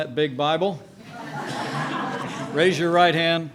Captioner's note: laughter